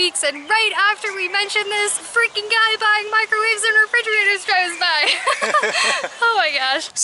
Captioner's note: laughter